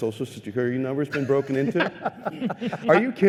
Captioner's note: laughter